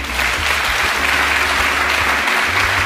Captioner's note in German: Applaus